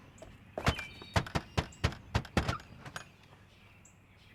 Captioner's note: knocking on door